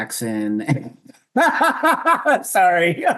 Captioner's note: laughs